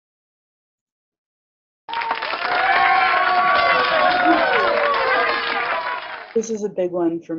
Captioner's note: cheering